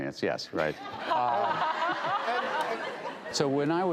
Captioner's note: laughs